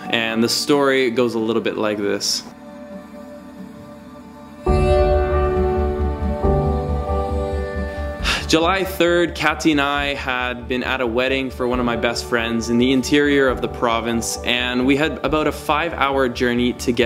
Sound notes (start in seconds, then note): 3.9 gentle moving music; 7.9 sighs